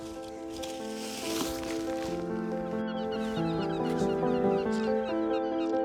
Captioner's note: melancholic piano music; seagulls cawing